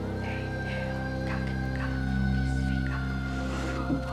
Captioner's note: whispering